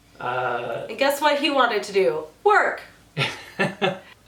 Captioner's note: laughs